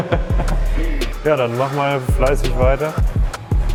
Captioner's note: laughter